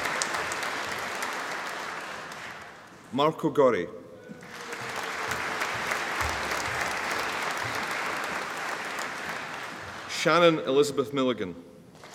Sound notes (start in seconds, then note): 4.4 audience applauding